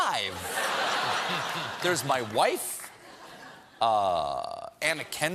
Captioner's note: laughter